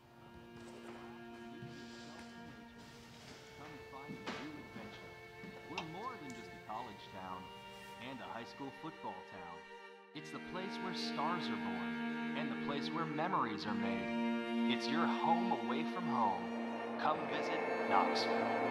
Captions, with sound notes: (tranquil music) - [Television] Come find a new adventure. We're more than just a college town and a high school football town. It's the place where stars are born and the place where memories are made. It's your home away from home. Come visit Knoxville.